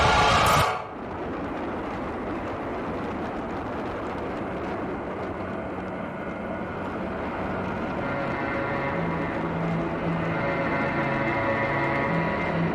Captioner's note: rockets launch, music finishes